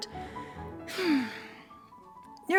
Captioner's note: sigh